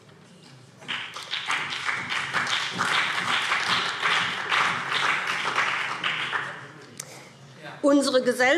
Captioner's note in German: Beifall BÜNDNIS 90/DIE GRÜNEN und CDU